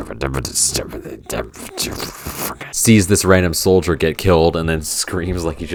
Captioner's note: grumbling